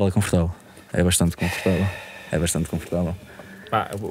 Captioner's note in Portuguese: suspira